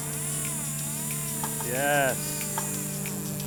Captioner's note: fishing line whirring